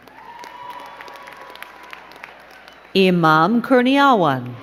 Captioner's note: crowd cheering and clapping